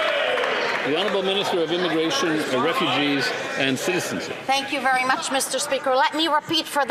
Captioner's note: some Applause